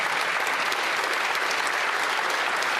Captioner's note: some Applause